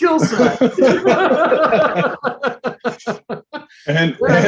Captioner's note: laughing